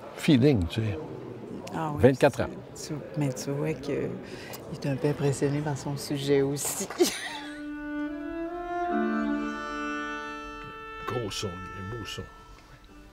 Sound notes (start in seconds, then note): 7.0 laughs; 7.7 recording playing